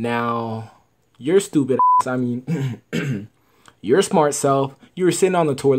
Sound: clears throat

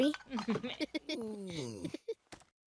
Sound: laughing; Babu grumbling

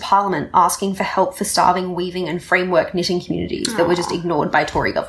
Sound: giggling

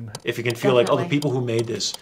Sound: ticking clock

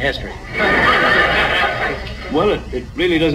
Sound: audience laughs

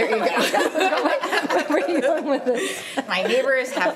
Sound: laughter

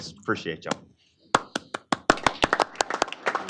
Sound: applause

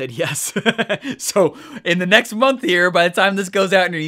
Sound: laughing

